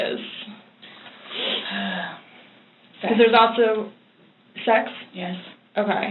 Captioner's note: sighs